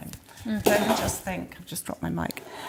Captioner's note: microphone bangs